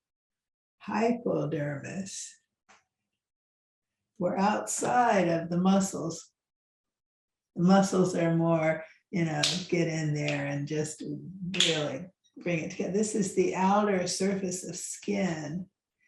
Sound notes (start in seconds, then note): 11.5 snaps fingers